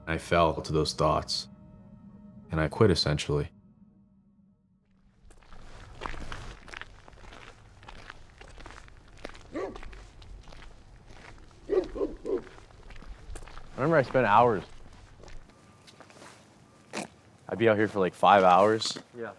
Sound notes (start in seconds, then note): 5.6 footsteps crunching; 9.5 dog barking